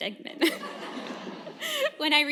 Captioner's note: laughter